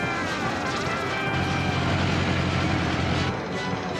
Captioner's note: none